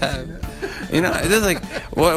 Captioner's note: panel members laugh